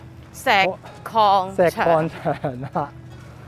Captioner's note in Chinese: 尷笑